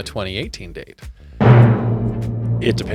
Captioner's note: dramatic bell dings